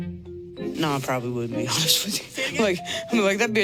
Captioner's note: laughing